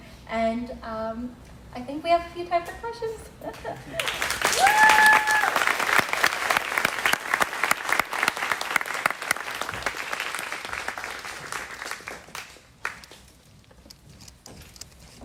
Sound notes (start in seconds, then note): 3.9 crowd clapping; 4.0 crowd cheering